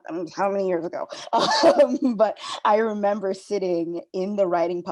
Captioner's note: laughing